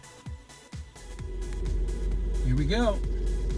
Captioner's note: car engine running